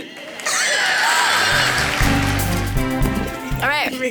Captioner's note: audience applauds